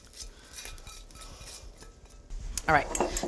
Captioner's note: cooking pan buzzing